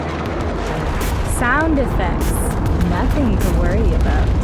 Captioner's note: another Crashing sound